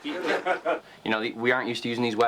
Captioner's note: laughter